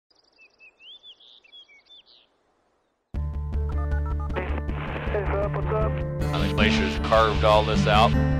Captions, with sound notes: [electronic beeping and static crackling] - Hey, Philip. What's up? - The glaciers carved all this out.